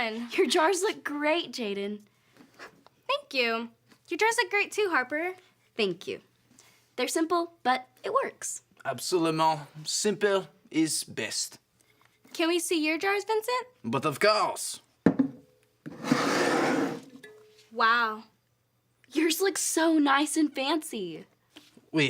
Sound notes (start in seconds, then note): 15.3 jar clanging; 15.8 jars scraping